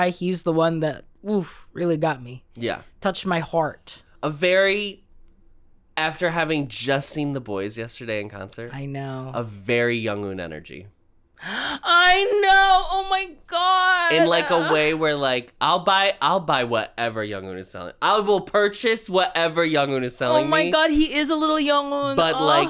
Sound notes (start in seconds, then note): 11.4 gasp